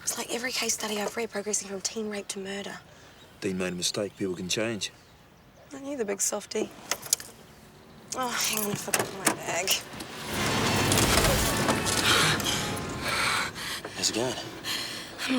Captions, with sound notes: It's like every case study I've read progressing from teen rape to murder. - Dean made a mistake, people can change. - Aren't you the big softie? Oh, hang on, I forgot my bag. (truck engine revving) (horn honking) (Jodie breathing heavily) - How's it going?